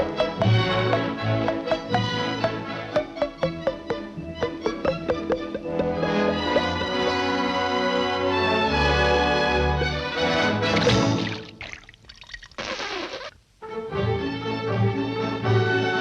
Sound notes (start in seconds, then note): 0.2 bubbles popping; 10.6 water rippling; 13.0 Daffy gurgling